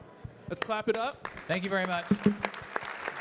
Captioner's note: audience clapping